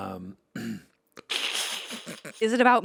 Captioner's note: Anthony laughs